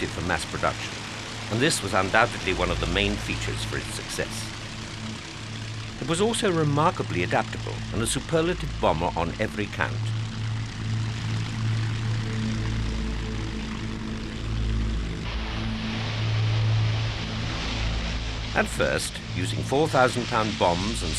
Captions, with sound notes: for mass production, and this was undoubtedly one of the main features for its success. It was also remarkably adaptable and a superlative bomber on every count. (pensive music) (plane roaring) At first, using 4,000 pound bombs